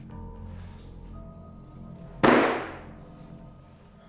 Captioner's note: strike on table